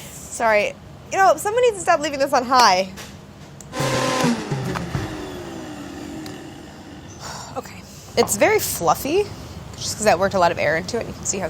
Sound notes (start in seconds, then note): 3.7 whirring; 5.4 sighing